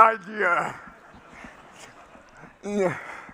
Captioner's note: laughter